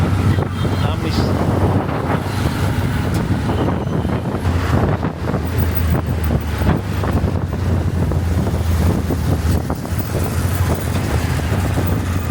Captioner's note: road noise